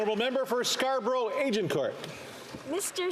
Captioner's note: some Applause